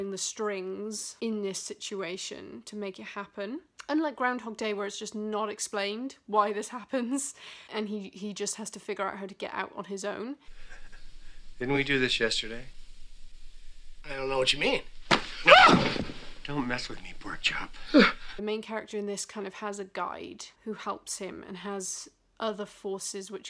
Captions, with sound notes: strings in this situation to make it happen unlike Groundhog Day where it's just not explained why this happens and he just has to figure out how to get out on his own -- "didn't we do this yesterday?" "I don't know what you mean." (scream) "don't mess with me pork chop" the main character in this kind of has a guide who helps him and has other forces which